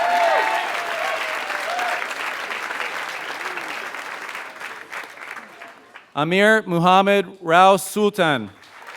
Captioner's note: applause; applause